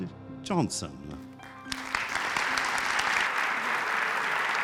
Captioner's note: applause